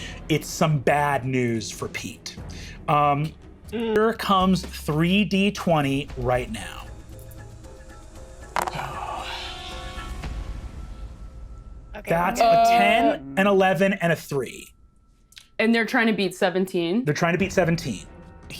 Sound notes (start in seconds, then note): 7.1 suspenseful music; 8.6 dice rattling; 8.6 someone sighs